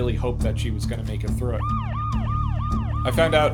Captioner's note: sirens wailing